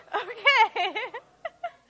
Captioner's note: laughs